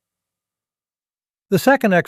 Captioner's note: pause